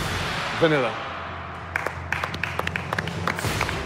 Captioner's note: applause